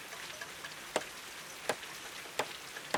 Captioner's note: hammer thumping